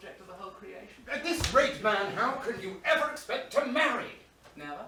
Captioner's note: none